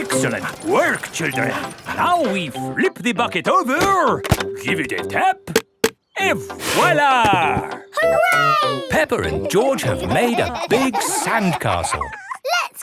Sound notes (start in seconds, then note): 9.1 laughing